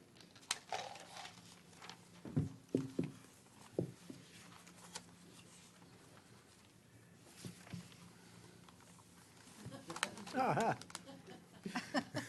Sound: laughter

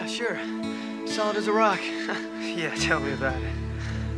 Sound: chuckles

